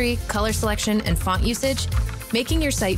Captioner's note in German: Tastaturgeräusche